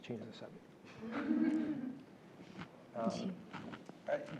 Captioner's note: laugh